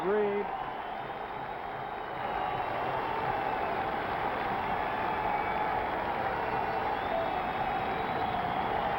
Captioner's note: applause